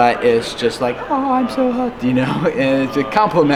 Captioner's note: high pitched voice